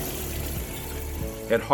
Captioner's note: machine whirs